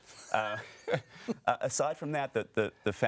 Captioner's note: laughing